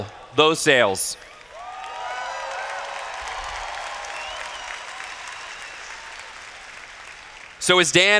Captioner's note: cheers